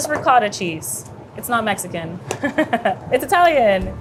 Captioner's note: laughs